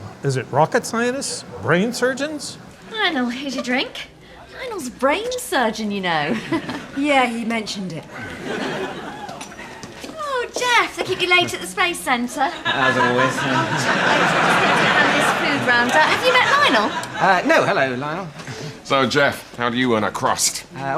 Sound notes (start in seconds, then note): 8.1 crowd laughing; 12.6 crowd laughing; 15.2 speaking faintly